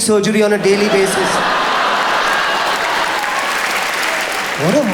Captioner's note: audience applauds